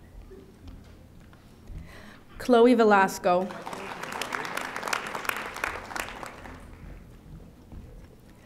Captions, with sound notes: Chloe Velasco. (audience applauding)